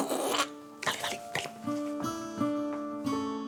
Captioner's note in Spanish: Sonido bucal